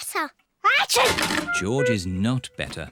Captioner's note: sneezes